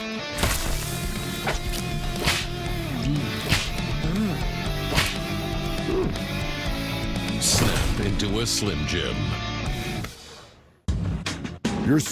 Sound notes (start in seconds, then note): 0.1 transition to electric guitar melody; 2.1 snap; 4.9 snap